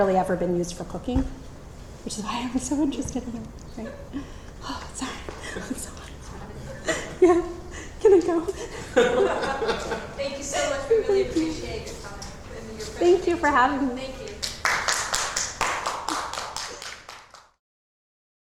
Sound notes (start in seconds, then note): 8.5 audience laughs; 14.4 audience applauds